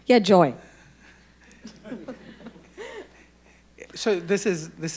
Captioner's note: audience laughing